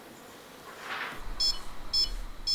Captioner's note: beeps